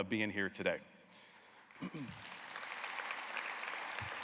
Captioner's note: applause